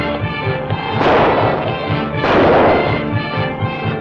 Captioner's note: gunshots